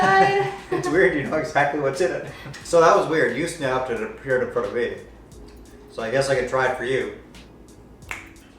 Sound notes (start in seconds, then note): 0.0 laughs